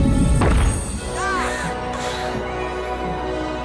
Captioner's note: gasps, sighs